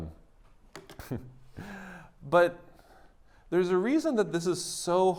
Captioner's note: chuckles